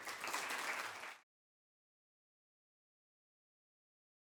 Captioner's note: applause